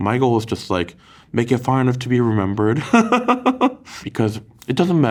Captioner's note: laughs